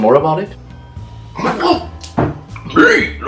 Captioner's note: spits water